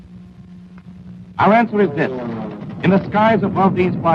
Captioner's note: guns firing